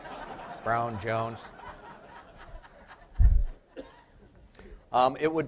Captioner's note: laughter